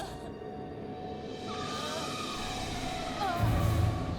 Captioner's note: tires screech; groaning